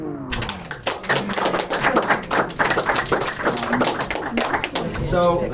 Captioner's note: applause